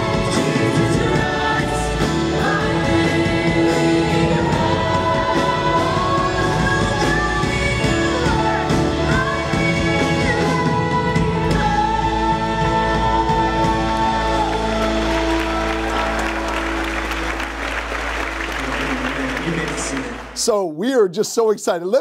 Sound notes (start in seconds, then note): 13.2 congregants cheering; 13.5 congregants applauding